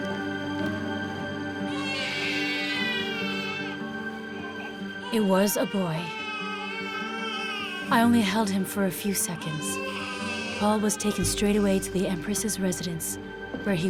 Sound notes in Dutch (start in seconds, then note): 1.6 krijsende baby